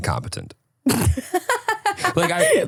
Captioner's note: laughing